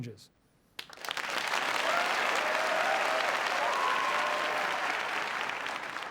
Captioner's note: applause